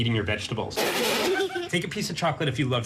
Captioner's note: laugh